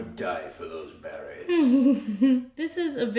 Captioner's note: chuckling